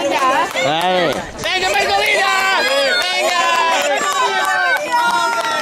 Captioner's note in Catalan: La gent anima